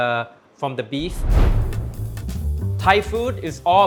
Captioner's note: poof